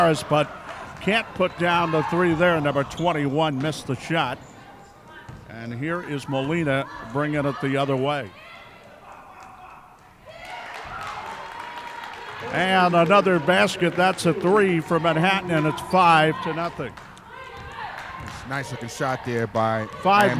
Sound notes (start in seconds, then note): 10.2 clapping